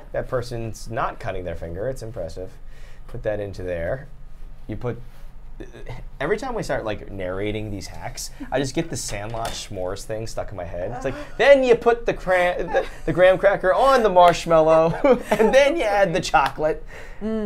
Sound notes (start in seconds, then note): 14.7 laughs